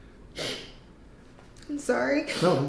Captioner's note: sniffles